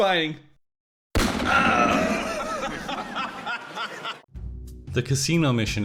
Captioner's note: gunshot, death scream, evil Bezos laugh